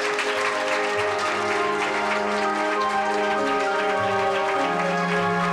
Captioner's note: applause